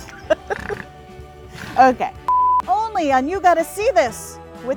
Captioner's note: both laughing